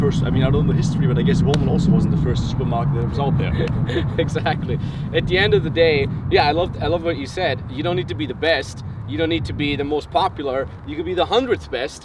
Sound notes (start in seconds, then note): 3.3 laughs